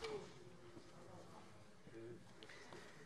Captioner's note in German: none